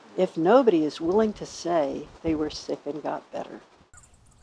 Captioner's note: birds chirping